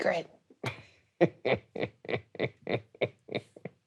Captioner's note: laughing